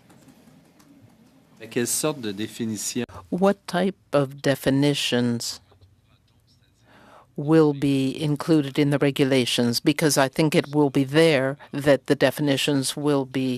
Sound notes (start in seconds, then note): 5.8 speaking French